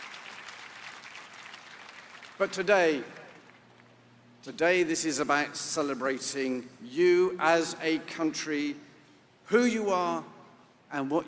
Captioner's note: applause